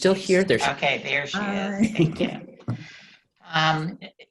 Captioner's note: chuckling